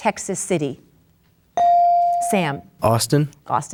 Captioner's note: bell dings